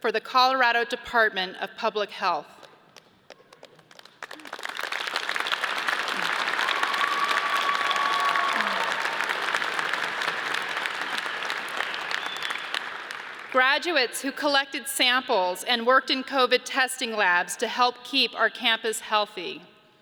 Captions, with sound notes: for the Colorado Department of Public Health, (audience cheers and applauds) graduates who collected samples and worked in COVID testing labs to help keep our campus healthy,